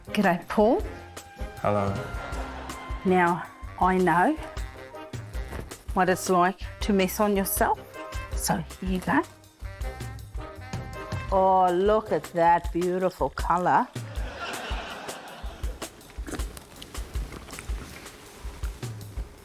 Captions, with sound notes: Gidday, Paul. - Hello. - Now, I know... what it's like to mess on yourself, so there you go. Oh, look at that beautiful colour. (LAUGHTER) - (SLURPS)